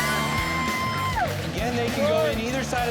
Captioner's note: cheering